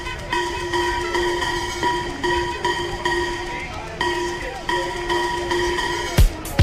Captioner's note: indistinct chattering; upbeat music